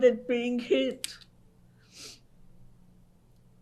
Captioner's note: pauses for 3 seconds